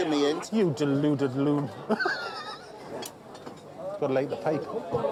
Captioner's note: laughs